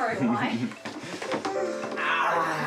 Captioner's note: laughs